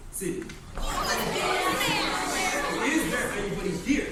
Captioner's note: crowd commotion